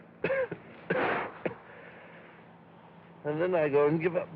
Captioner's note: coughing